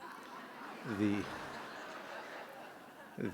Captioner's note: laughter